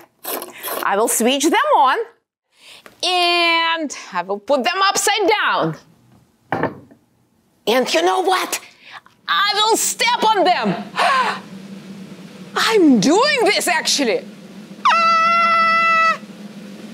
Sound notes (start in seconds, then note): 11.0 gasp